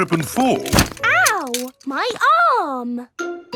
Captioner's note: thumps